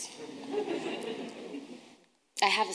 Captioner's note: audience laughing